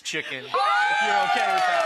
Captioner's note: audience cheers and applauds